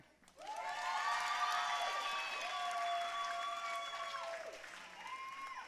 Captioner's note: audience cheering and applauding